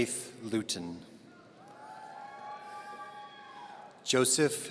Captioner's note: audience cheering